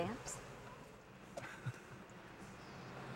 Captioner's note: chuckles